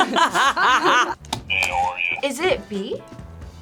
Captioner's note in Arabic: يضحك الجميع; نقرات الزر